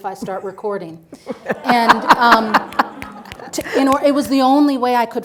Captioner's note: audience laughing